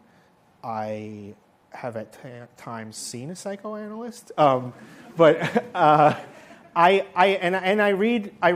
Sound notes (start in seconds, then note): 5.2 laughter